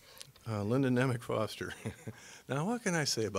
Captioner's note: chuckling